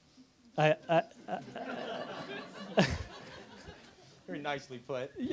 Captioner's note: laughter